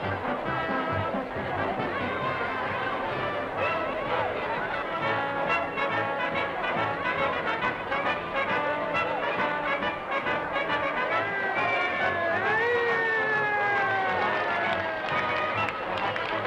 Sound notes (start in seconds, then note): 11.8 sirens blaring